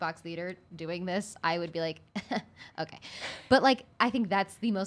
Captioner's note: chuckle